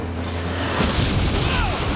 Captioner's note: explosion booming